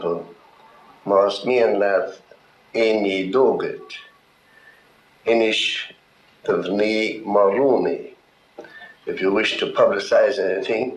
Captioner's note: speaking gaelic